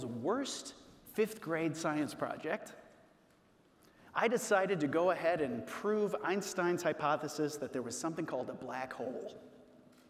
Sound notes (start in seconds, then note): none